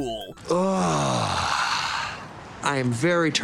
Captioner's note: sound of relief